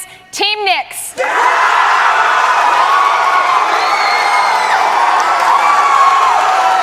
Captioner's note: cheers and applause